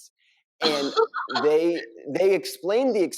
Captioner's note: laughs